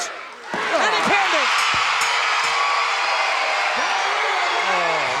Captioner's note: bell ringing